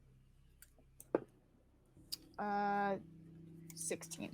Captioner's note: dice thudding